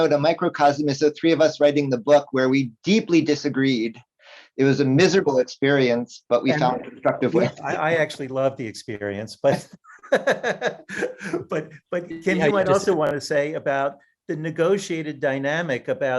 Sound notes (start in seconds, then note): 9.3 laughs